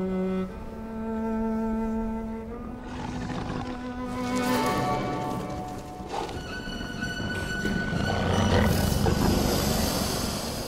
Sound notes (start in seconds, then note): 2.8 growl; 7.1 intense growls and hissing